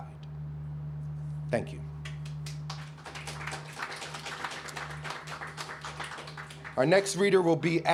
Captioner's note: clapping